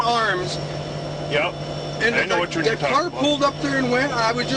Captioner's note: voiceover